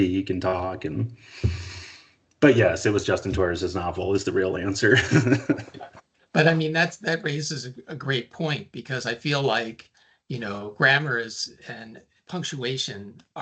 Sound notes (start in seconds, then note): 5.1 laughing